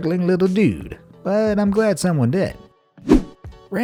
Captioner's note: air whooshing